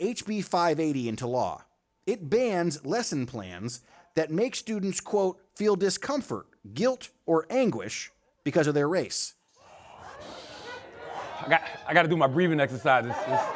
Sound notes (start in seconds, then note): 9.6 inhales deeply